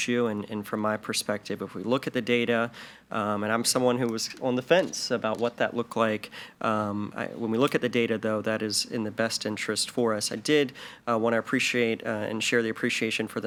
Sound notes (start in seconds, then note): none